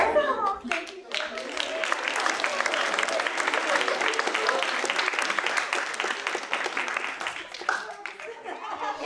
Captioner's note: applause